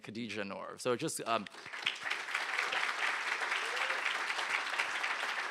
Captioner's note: applause